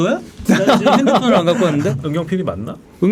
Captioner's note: laughing